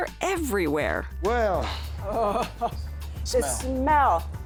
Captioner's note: chuckles